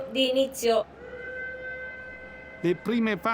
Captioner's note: starting whistle